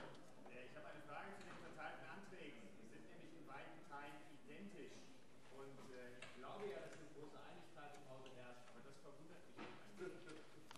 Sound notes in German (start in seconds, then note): none